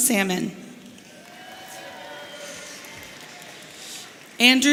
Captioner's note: audience cheering